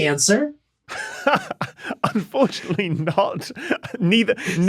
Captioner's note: laughs